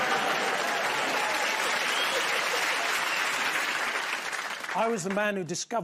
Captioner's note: cheers and applause